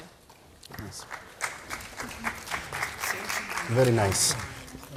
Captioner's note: applause